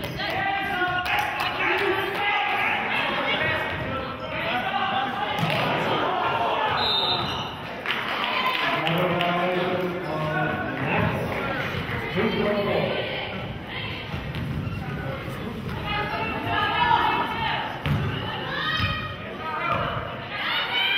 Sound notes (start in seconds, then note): 6.7 whistle blows